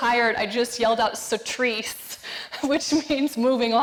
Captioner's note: speaking foreign language